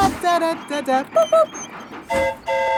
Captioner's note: mimics train whistle; train whistle toots